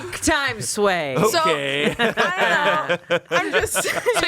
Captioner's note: laughs